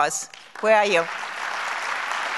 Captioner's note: applause